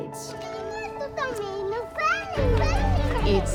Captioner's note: mumbles